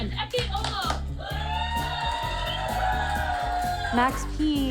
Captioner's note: audience cheers and applauds